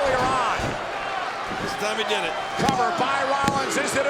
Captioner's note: body thudding; hands thudding